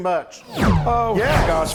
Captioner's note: whoosh sound